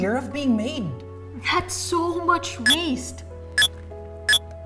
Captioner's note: Mind-blower beeps